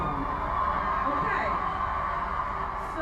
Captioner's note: audience on screen applauds